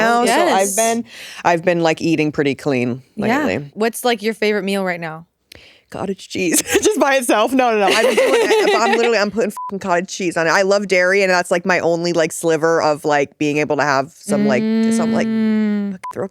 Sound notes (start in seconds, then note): 7.8 all laughing; 9.5 beep